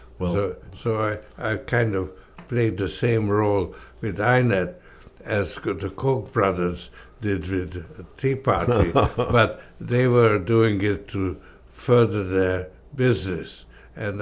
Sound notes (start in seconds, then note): 8.5 laughs